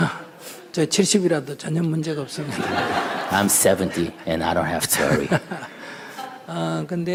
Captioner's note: audience/ Laughter